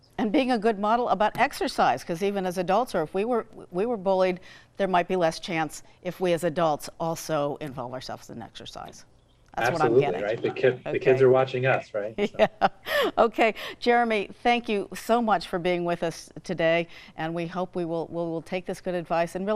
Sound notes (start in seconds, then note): 12.6 laughs